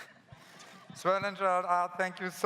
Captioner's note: laughs